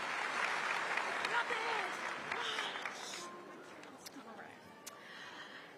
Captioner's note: applause